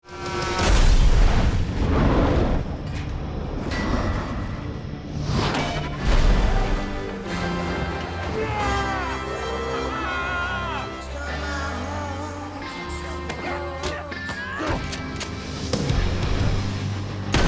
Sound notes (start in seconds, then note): 0.1 horn honking; 1.1 cars crashing; 14.8 gun cocking